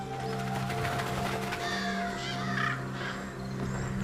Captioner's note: birds cawing